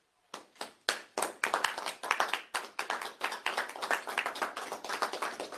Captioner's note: applause